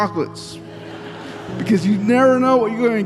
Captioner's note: audience laughing